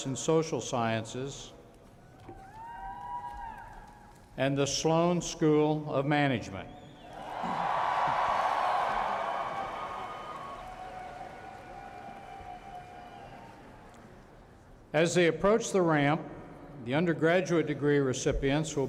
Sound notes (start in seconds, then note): 7.0 cheering